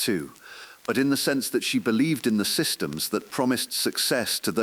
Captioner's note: exhale